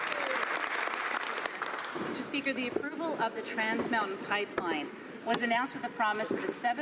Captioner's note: some Applause